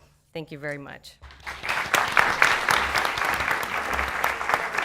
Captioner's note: audience clapping